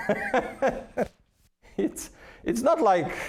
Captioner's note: laughing